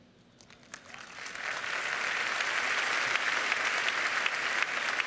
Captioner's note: applause